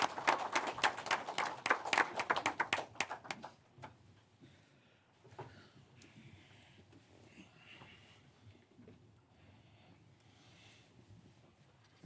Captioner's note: applause